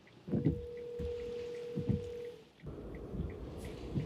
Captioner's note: line ringing